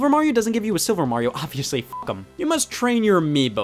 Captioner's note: beep